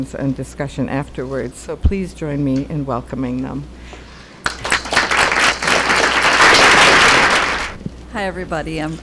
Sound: applause

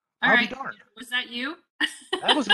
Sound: laughing

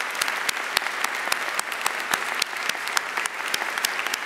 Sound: audience applauding

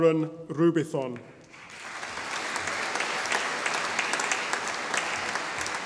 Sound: audience applauding

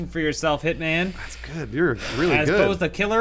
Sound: deep sighs

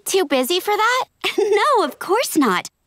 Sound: laughing

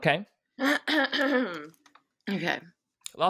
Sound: clears throat

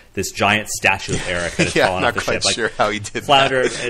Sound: laughs

